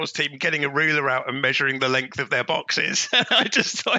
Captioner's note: laughs